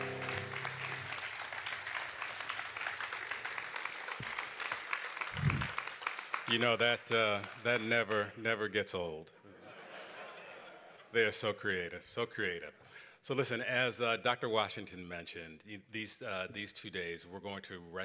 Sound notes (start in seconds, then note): 6.7 laughter